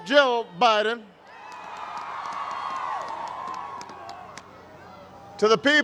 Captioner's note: crowd cheers